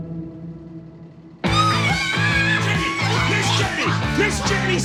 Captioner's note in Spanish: Gritos